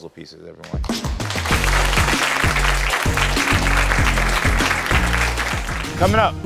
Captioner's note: applause; upbeat music